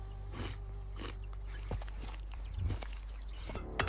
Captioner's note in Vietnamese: khịt mũi